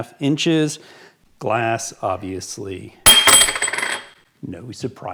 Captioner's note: clinking sound